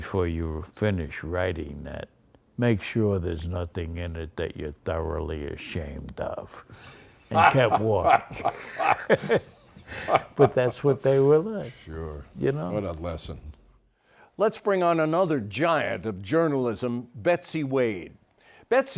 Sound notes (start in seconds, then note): 7.3 laughs